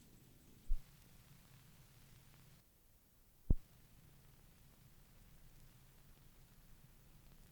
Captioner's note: no audio